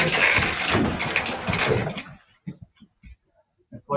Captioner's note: chairs creak